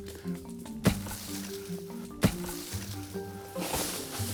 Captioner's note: ax thwacking